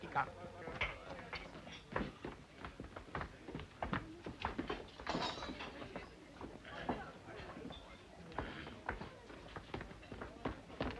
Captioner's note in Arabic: بوريس يتحدث بلغة أجنبية; ثرثرة خافتة; خطوات سريعة